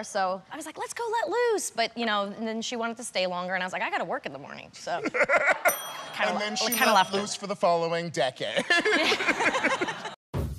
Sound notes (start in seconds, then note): 5.0 laughs; 8.5 laughter